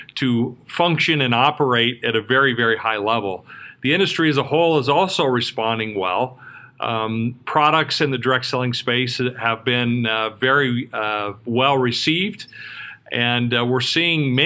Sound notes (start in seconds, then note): none